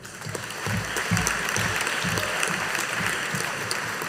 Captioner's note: audience applauding